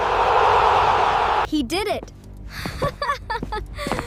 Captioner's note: laughter